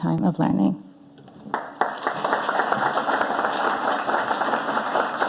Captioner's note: audience applauding